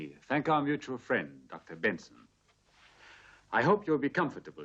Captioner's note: none